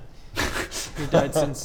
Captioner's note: insensitive giggles